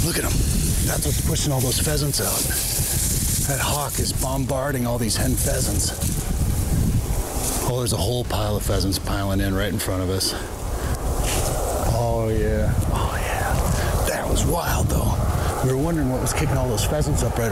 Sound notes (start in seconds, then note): 1.3 grass rustling